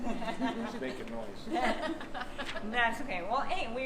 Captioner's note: laughing